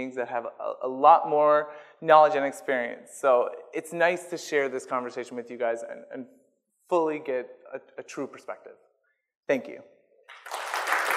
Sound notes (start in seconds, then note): 10.3 audience applause